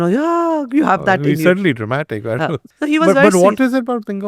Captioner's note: laughs